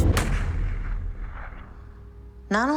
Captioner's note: gunshot